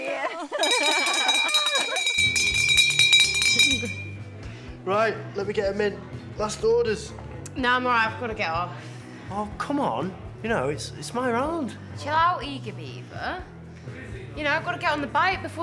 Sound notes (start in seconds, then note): 0.0 laughs; 0.6 bell rings